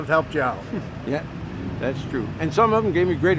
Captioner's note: chuckling